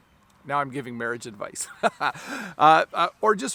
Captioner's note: laughs